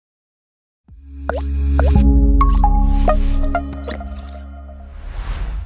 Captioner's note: water droplet sound